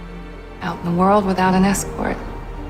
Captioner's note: voiceover